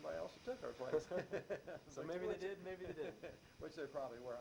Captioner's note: both laugh